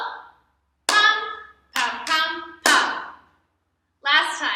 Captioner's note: clap/thigh/thigh/clap